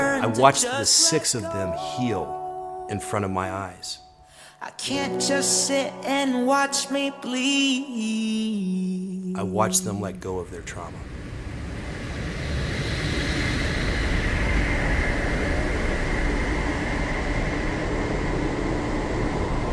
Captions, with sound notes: I watched the six of them heal in front of my eyes. I watch them let go of their trauma. [wind rushing]